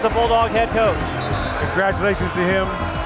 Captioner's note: referee whistling